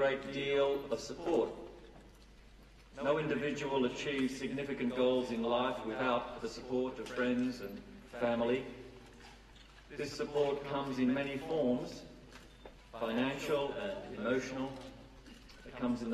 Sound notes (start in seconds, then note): none